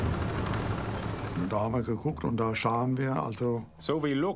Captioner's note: speaking in foreign language